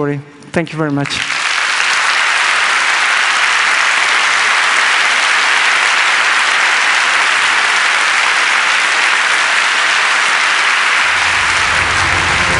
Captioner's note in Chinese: 掌聲